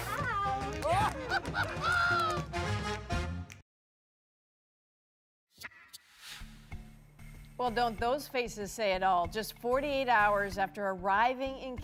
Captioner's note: laughing